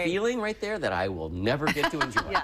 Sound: laughter

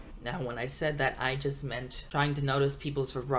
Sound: none

